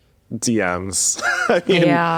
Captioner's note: laughs